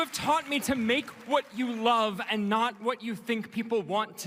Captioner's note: cheers & Applause